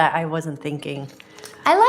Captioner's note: slurping